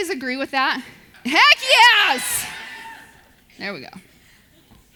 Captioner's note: audience cheers